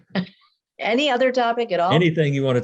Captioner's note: laughs